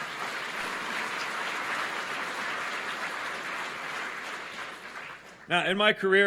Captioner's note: applause